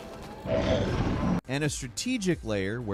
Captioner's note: tech whirs